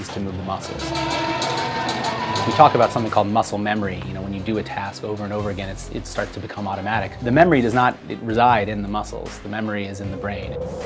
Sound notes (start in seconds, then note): 0.6 starting bell